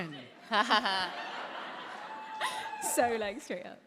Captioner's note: laughter